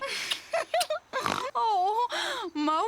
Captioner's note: giggles; snorts